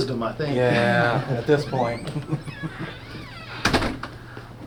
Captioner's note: closes door